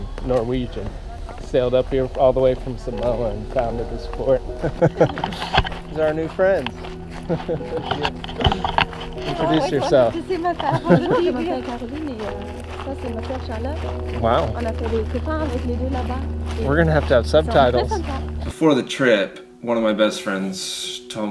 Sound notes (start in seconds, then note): 10.5 speaking french